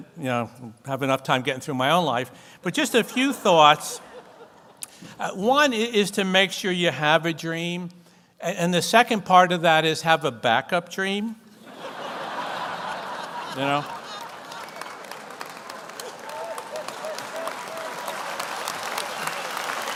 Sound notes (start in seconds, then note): 11.6 audience laughs and applauds